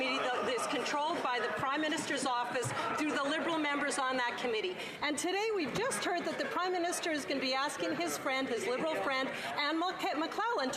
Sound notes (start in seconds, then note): none